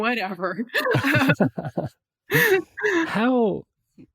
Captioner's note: both laughing